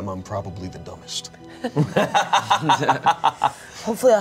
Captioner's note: everyone laughs